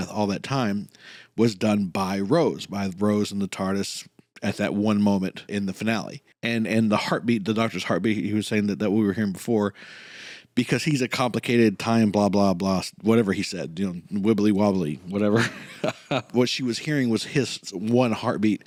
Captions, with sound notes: all that time, was done by Rose, by Rose and the TARDIS at that one moment, in the finale. And the heartbeat, the Doctor's heartbeat- he was saying that we were hearing before... ...because “he's a complicated time blah, blah, blah”. Whatever he said, y’know, wibbly wobbly, whatever. [laughs] What she was hearing was his one heartbeat